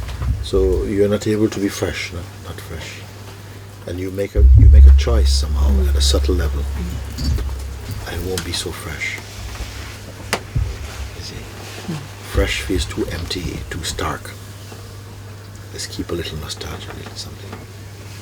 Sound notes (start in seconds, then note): none